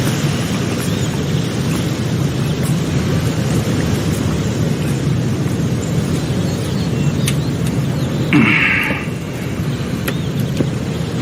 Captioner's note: wind blowing